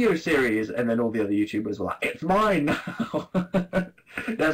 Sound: laughs

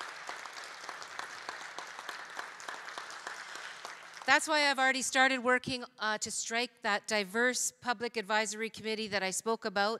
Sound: applause

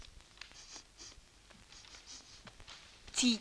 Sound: sniffs

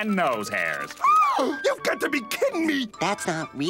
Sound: gasps

